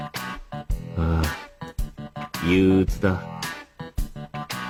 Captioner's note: sigh